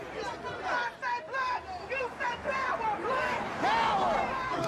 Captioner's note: people protesting